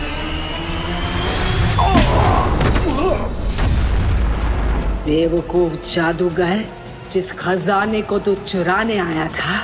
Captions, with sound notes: [crashing against wall] Foolish magician. The treasure you had come to steal,